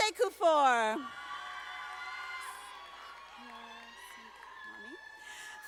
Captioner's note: audience applauding